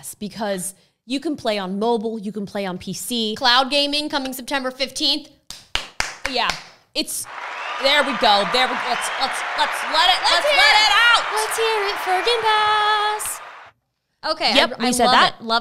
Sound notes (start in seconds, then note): 5.6 claps; 7.2 crowd cheering